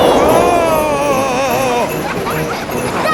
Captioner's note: screaming; children laughing